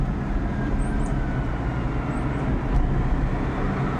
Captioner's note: birds chirping